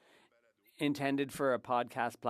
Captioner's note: speaking French